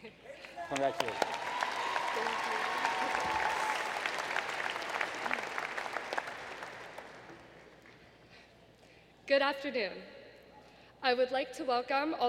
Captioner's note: applause